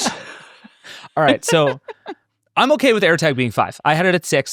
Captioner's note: laughing